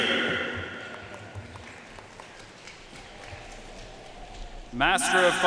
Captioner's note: audience cheering and applauding